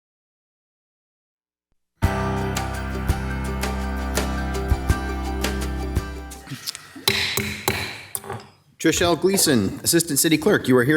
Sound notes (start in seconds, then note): 2.0 upbeat music; 7.1 table banging